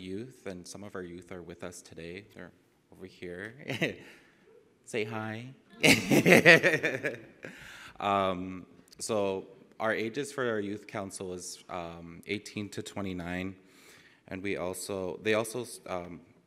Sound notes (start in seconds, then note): 5.8 laugh